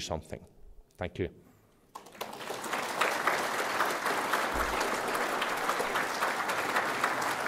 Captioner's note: applause